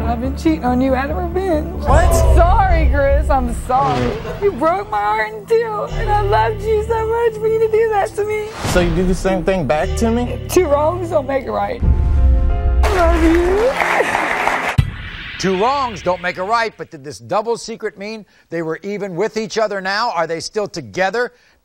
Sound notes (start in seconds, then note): 12.8 audience applauding